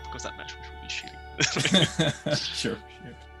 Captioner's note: both laugh